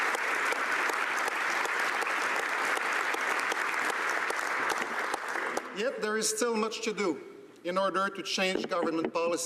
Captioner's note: applause